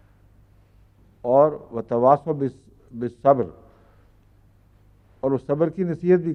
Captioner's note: Arabic